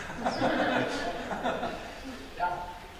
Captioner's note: audience Laughter